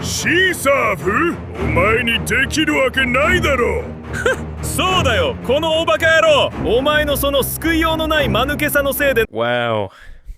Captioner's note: dialogue in Japanese